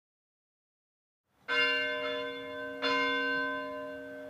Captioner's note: bell ringing